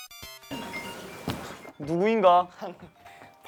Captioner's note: ringing